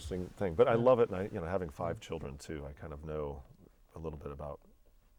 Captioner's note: laughing